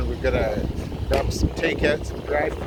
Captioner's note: none